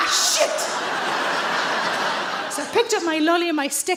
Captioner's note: audience laughs